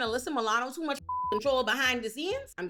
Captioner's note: beep